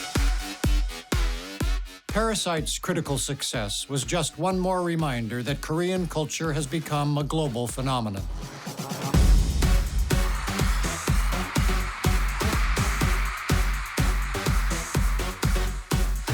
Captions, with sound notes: (K-pop music) "Parasite's" critical success was just one more reminder that Korean culture has become a global phenomenon. (cheering)